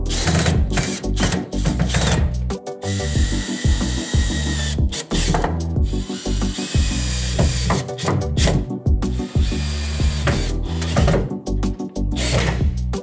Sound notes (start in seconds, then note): 0.1 drill hums and thuds; 0.1 relaxed music; 5.9 drill hums; 5.9 relaxed music